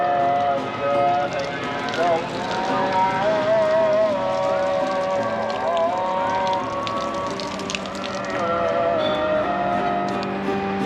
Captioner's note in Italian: Applauso